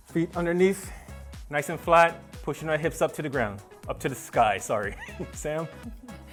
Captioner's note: laughing